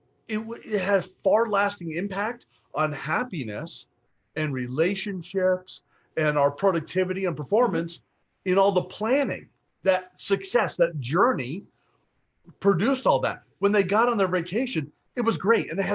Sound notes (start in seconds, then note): none